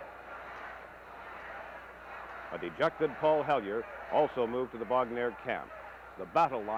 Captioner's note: crowd noise